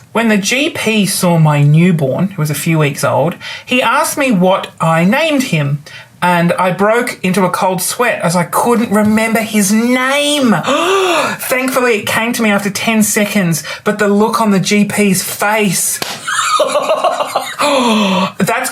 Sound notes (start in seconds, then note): 10.6 gasps; 16.2 laughs